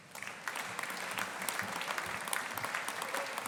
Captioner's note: audience applauding